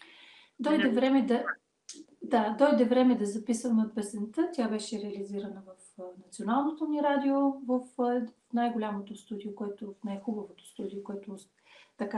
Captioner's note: foreign Language followed by English Interpreter